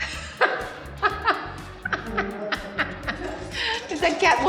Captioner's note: Halle laughs